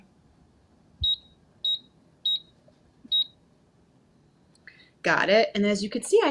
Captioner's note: electronic beeping